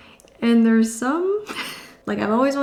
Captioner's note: chuckling